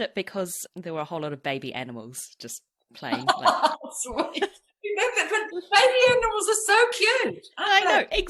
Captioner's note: laughs